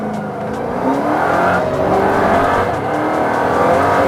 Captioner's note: engine revving; gears shifting